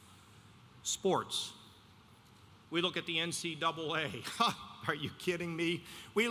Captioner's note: laughs